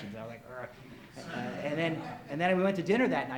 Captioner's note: audience laughs